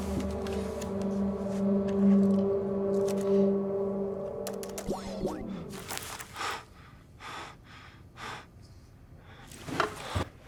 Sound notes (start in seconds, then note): 4.4 keys clicking; 4.4 computer whooshing; 5.6 Aiden panting